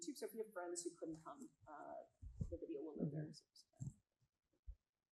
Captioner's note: faintly speaks